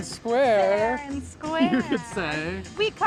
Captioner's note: laughing